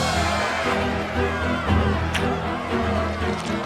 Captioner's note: angry chatter